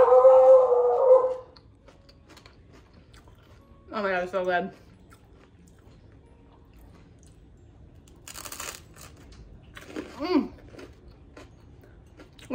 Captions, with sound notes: (dog barking continues) Oh my god, this is so good. (toast crunching) Mm.